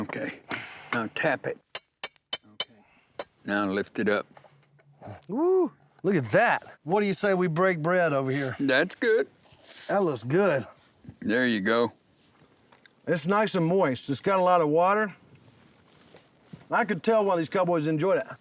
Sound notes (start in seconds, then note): 1.7 tapping sounds